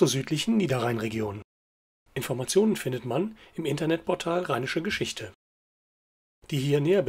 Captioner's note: only in German